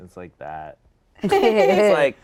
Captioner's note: all laughing